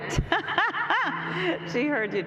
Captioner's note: laughs